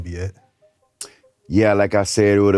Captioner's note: clicks tongue